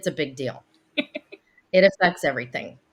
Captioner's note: laughing